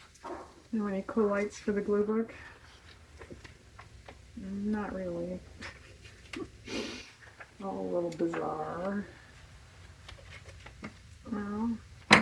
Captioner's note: laughs